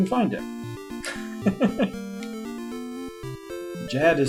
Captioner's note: chuckles